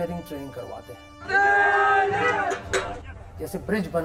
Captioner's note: shouts